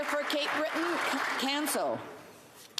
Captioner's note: some Applause